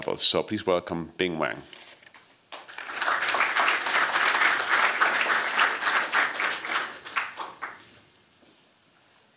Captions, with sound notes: So please welcome Bing Wang. [applause]